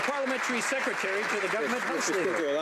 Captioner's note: some Applause